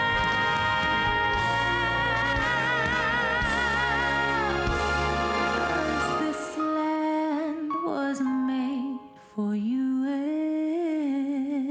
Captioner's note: speaking foreign language